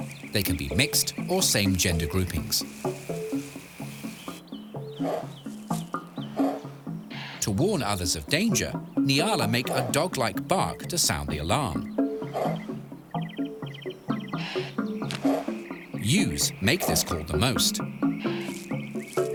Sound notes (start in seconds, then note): 12.3 soft barking